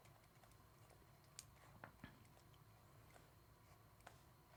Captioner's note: computer mouse clicking